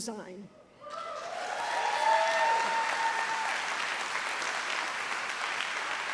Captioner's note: audience cheers and applauds